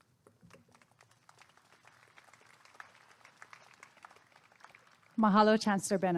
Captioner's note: applause